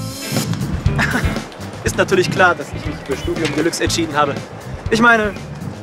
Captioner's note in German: lacht